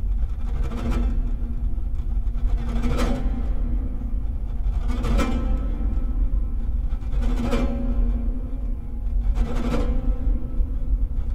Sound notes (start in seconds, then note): none